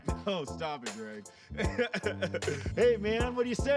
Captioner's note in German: lacht